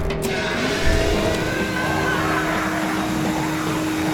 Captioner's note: leaf blower whirring